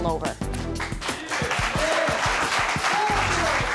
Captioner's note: audience applauding